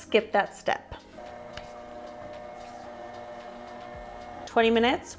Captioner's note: machine whirring sounds